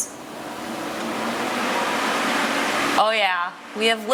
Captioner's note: fans whirring